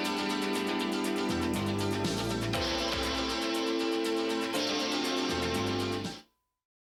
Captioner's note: bell ringing